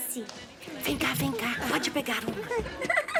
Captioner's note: whispers